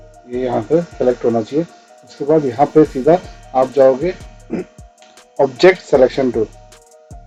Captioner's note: clearing throat